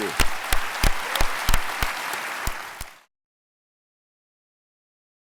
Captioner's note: audience and panel clapping